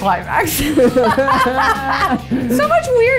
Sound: laughing

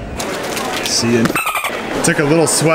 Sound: laughing; porpoise squealing

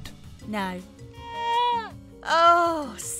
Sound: goat screaming

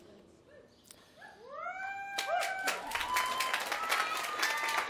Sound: applause

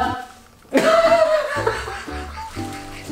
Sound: both laugh

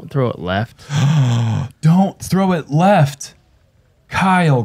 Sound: gasps

